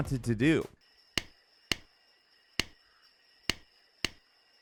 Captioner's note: slap smacking